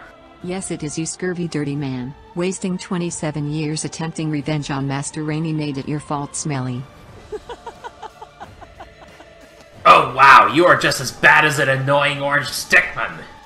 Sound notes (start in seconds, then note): 7.1 laughs